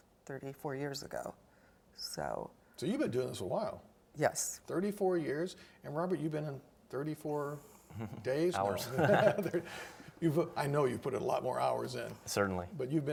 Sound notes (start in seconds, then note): 7.9 laughs